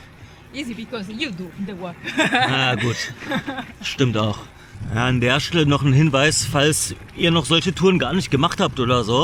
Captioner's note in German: gelächter